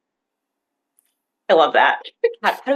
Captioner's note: chuckles